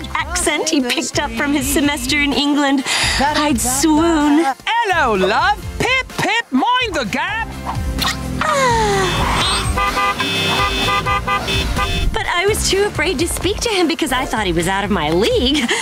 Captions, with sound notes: he picked up from his semester in England, I'd swoon. Hello, love! -Pip pip, mind the gap! [swooning] [car horns honking] But I was too afraid to speak to him because I thought he was out of my league.